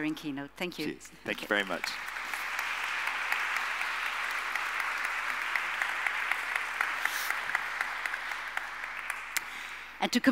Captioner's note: audience applauding